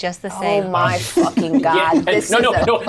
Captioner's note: all laugh